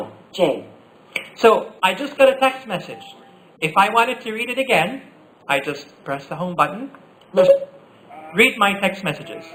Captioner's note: Siri beep